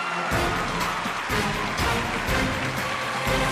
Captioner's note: cheers and applause